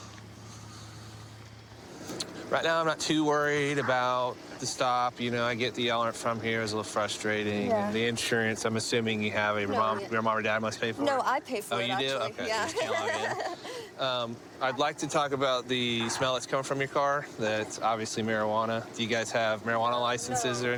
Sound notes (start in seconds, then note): 12.5 nervous laughter